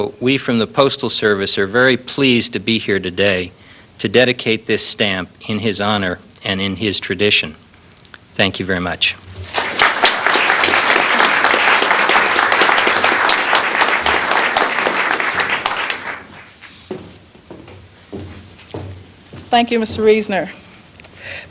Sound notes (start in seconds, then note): 9.4 applause